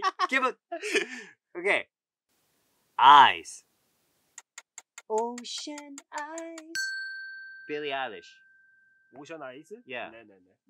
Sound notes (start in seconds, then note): 4.4 timer ticking; 6.7 bell rings